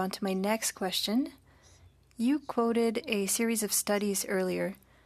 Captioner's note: speaking French